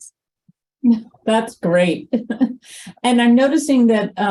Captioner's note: laughs